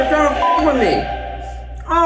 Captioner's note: dramatic choral music; beep